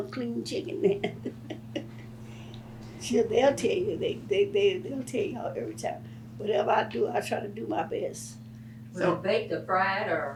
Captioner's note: laughs